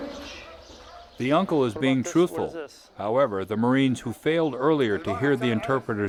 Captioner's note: voiceover